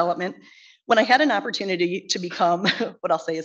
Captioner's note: chuckles